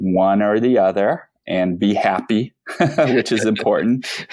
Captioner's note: laughs